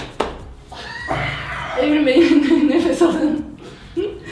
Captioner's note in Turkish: gülüş